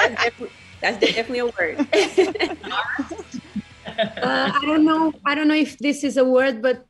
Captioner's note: laugh